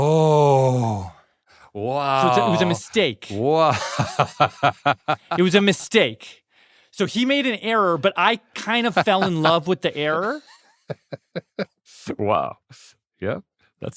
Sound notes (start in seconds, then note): 3.4 laughs